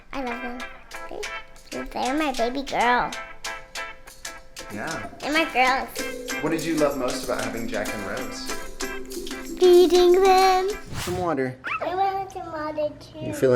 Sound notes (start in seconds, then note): 10.7 wooshing; 11.7 small dark barking